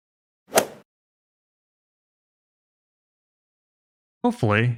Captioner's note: golf ball hit sound effect